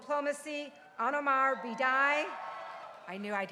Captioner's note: crowd cheering